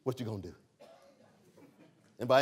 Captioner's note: laughter